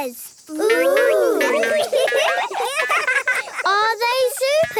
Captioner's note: laughing